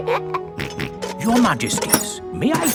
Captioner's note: both giggle; snorts